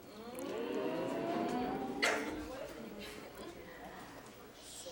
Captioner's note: crowd chattering